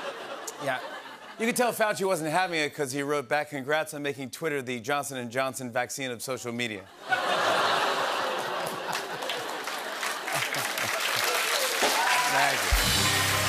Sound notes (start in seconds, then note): 0.0 laughter; 7.0 laughter, cheers, applause; 13.3 cheers and applause